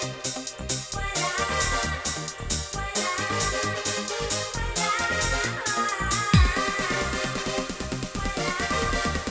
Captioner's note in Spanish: ah, ah, ah, ah